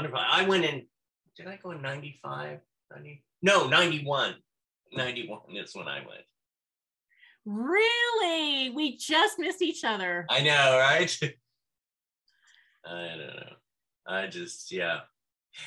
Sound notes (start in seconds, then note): 13.0 chuckles